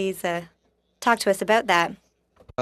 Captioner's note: speaking French